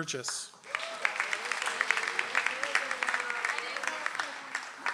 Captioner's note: audience applauds